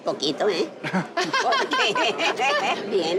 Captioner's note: laughter